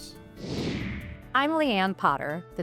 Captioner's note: screen whooshing